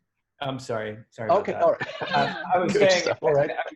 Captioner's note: laughs